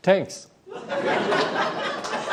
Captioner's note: laughter